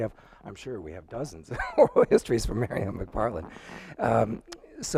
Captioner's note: laughs